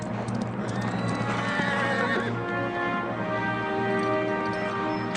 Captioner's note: horse neighing